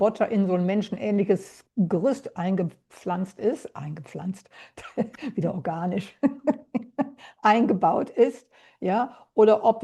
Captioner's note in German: gelächter